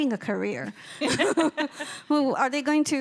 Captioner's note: chuckling